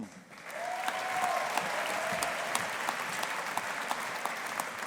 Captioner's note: audience applauding